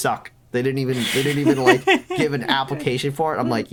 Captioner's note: laughing